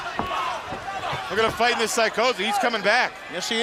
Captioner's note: crowd chatter